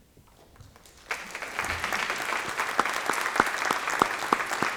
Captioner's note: applause